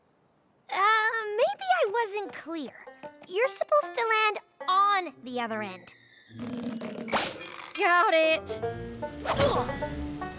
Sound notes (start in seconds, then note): 7.0 snap!; 9.3 grunts